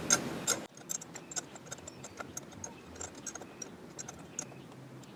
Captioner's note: ratchet squeaks